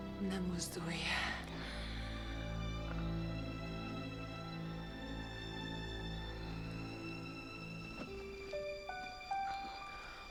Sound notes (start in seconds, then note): none